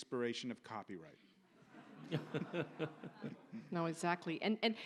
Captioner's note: audience laughs